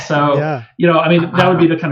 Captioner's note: laughs